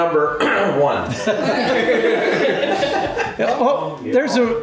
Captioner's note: everyone laughs